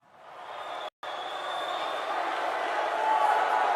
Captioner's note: crowd roars